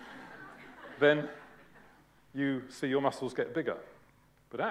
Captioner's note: laughter